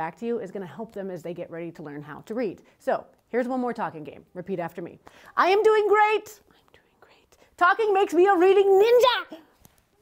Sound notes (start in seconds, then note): 6.3 whispers